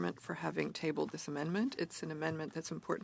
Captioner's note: speaking French